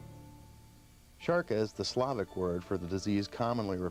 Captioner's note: voiceover